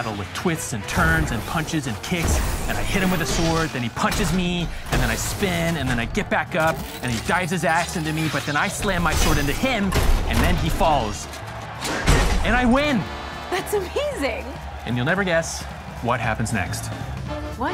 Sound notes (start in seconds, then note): 11.7 crowd cheering, applauding